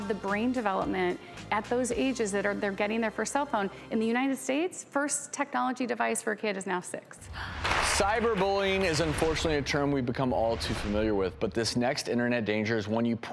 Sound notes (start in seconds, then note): 7.2 gasp; 7.6 audience clapping